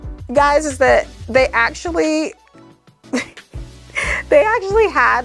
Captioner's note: chuckles